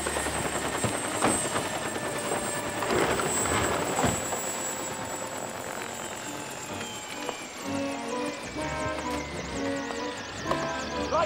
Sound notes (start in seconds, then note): 4.1 door slams; 7.6 slow carnival music